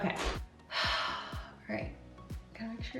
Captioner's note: sighing